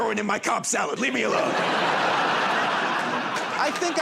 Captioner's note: laughter and applause